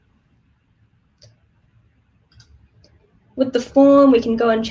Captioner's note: mouse clicking